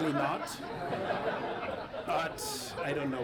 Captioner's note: audience laughing